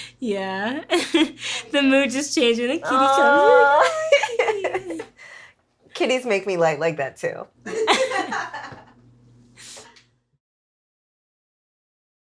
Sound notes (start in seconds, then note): 3.6 both laughing; 7.7 both chuckling